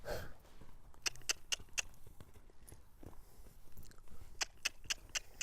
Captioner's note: clicks tongue